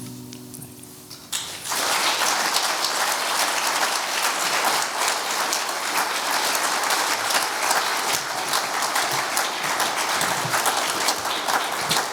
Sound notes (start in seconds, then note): 1.2 applause